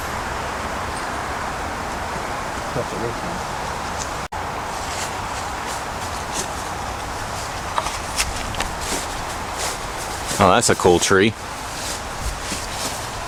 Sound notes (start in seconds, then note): 4.7 stepping on Leaves